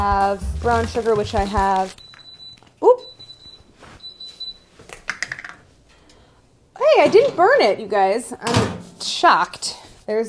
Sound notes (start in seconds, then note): 1.8 times softly beeping